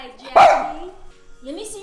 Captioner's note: barks